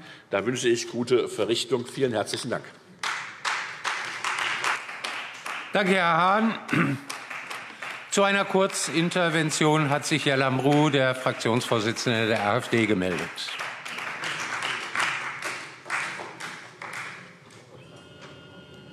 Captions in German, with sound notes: Ich wünsche gute Verrichtung. - Vielen herzlichen Dank. [Beifall Freie Demokraten] Danke, Herr Hahn. - Zu einer Kurzintervention hat sich Herr Lambrou, der Fraktionsvorsitzende der AfD, gemeldet.